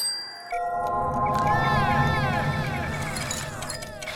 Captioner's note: tick tock, tick tock, tick tock